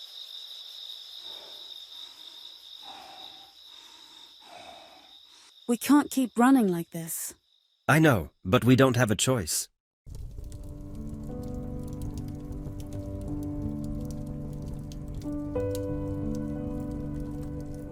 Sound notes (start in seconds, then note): 10.0 fire rustling; 15.9 gentle music